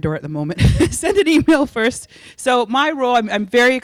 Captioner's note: laughing